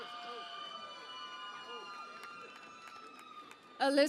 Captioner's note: cheering and Applause